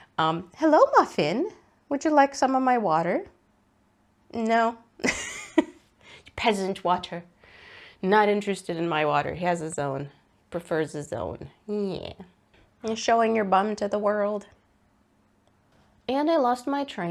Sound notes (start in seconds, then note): 5.0 laughs